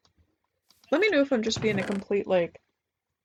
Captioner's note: none